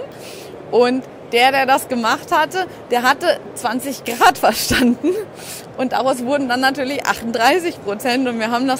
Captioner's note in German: lachen